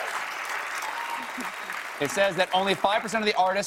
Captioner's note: applause